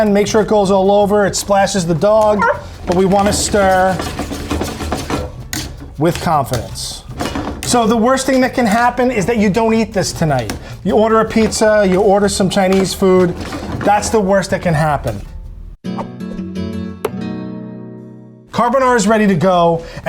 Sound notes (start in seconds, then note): 2.3 dog barks; 15.6 gentle music